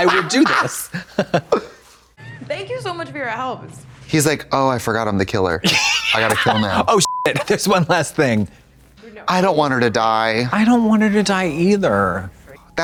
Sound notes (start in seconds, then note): 7.0 beep